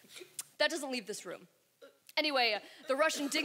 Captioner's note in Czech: CURT se dusí